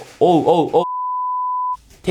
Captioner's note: beep